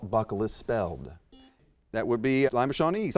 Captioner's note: buzzer beeps